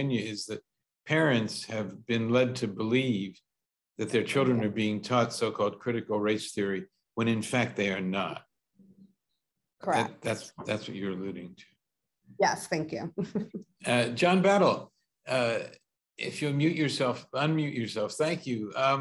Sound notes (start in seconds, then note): 13.9 chuckles